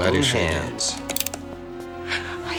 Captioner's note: cocks gun